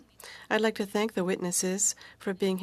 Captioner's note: speaking French